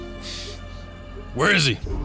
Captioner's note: snorts